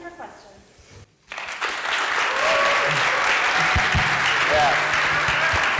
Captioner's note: applause and cheering